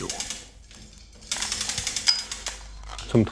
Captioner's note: rattling, bright metallic sound